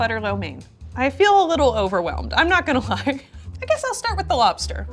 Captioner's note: chuckles